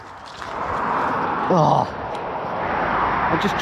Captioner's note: traffic roaring